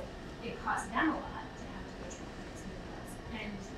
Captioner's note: speaking away from mic